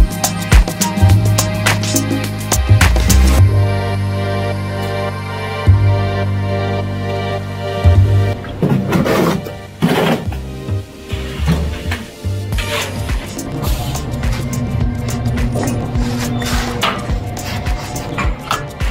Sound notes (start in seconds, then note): 9.8 shovel scraping